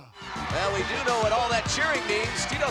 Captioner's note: audience cheering